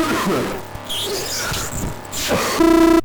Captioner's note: coughs; audio distortion